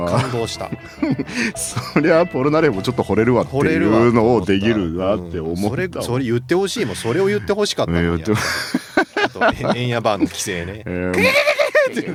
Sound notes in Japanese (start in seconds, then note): 0.0 笑い; 10.5 笑い